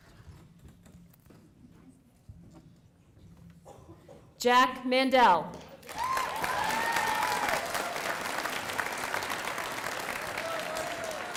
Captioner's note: applause